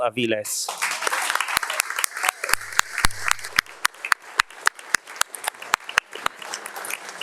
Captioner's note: attendees clapping; claps